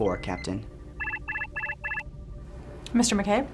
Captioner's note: alarm